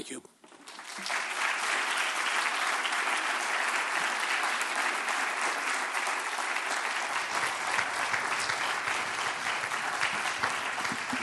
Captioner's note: applause